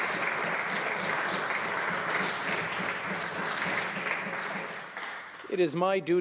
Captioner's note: applause